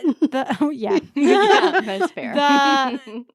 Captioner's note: both laughing